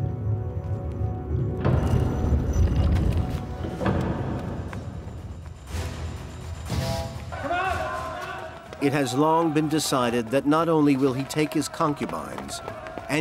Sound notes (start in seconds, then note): 3.8 door clunking; 6.1 dramatic music; 7.3 men yelling